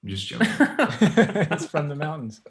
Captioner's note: all laugh